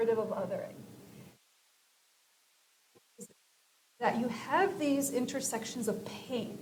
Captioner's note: silence